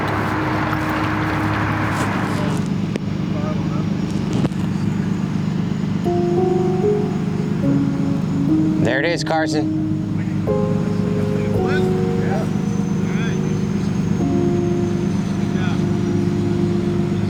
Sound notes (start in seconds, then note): 12.0 overlapping chatter